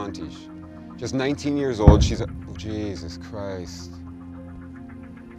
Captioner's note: loud explosion